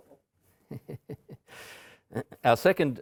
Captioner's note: emcee laughing